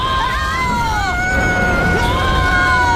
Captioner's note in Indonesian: berteriak